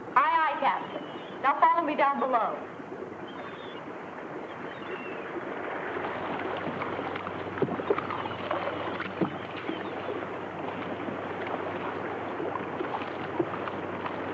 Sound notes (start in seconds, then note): 6.9 water laps